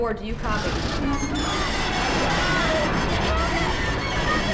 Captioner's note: growling